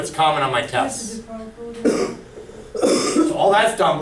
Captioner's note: voiceover